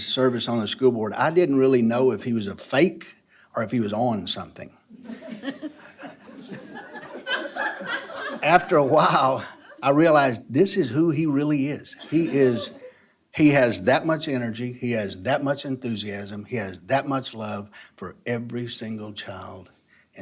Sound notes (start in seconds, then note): 4.9 laughter